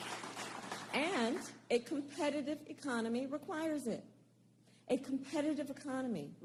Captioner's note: applause